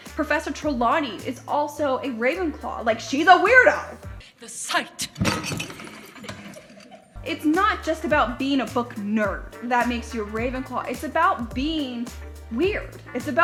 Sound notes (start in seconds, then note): 5.2 clatters; 6.1 giggles